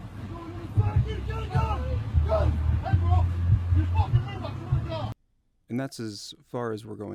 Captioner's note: other Officer with drawn weapon yells